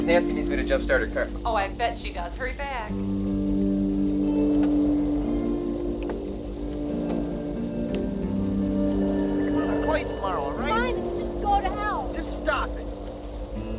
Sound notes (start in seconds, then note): 4.6 somber music continues; 4.6 wind howling